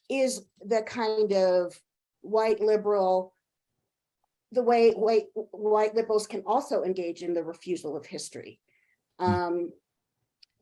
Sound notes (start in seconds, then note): none